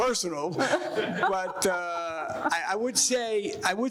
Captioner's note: panelists and audience laughing